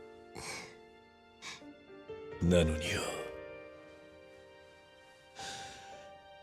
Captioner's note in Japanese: 鼻息